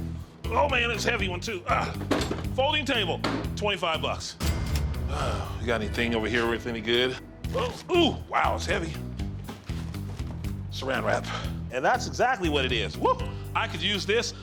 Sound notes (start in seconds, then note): 4.4 cash register dings; 5.0 sighs